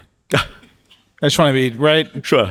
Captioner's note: Min chuckling